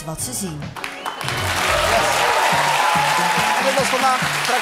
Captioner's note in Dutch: applaus en gejuich